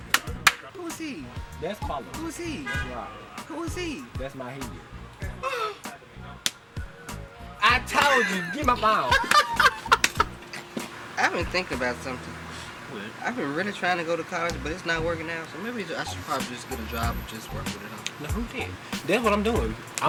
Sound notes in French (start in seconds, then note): 5.9 Claque; 7.9 Rires